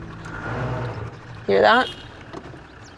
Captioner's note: vehicle rumbling